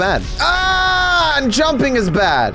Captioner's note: screams